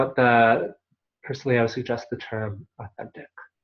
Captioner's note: Hebrew